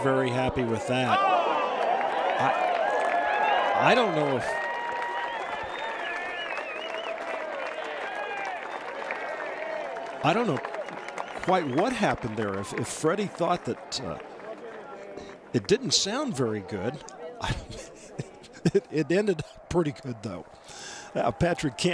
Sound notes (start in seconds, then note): 9.9 cheers and applause